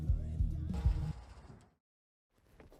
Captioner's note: car engine turns off - music stops